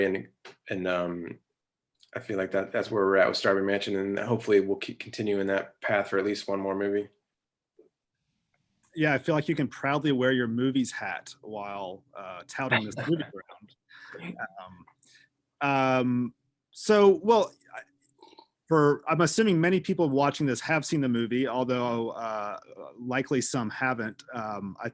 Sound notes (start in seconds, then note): 12.7 laughing